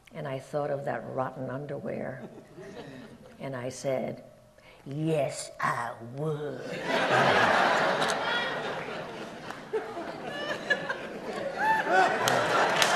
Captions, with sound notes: And I thought of that rotten underwear. And I said, "Yes, I would." (audience laughs)